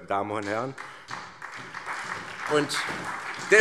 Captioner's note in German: Beifall